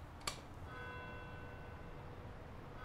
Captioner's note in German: Kirchturmuhr schlägt